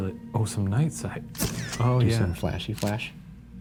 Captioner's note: camera clicks